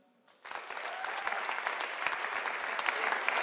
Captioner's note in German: Einige klatschen